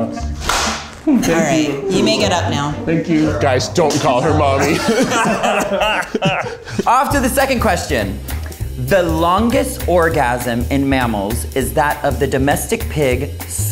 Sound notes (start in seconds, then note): 3.9 all laughing